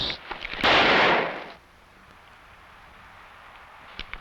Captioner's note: gun blasting